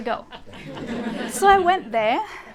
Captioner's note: laughter